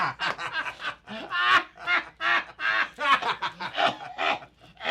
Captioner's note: criminals laughing